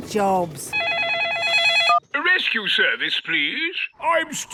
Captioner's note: phone ringing